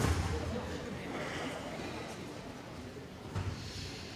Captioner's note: audience laughing